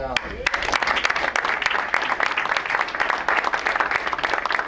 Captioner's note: crowd applauds